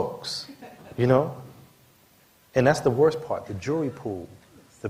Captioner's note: laughter